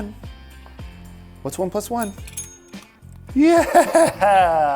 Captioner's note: bell rings twice